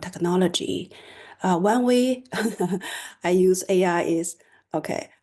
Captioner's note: laughter